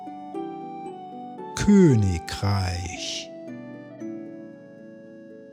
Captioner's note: german